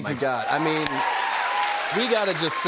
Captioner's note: cheers and applause